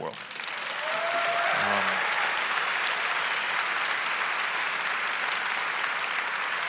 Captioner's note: audience applauding; audience cheering